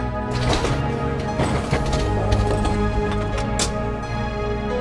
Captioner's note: trolley rattles